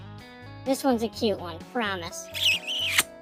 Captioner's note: kissing noise